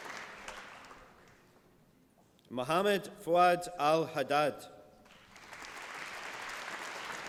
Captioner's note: applause